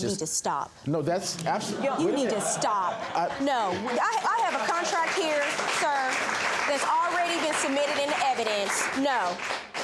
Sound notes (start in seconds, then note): 1.5 audience laughs; 3.7 audience applauding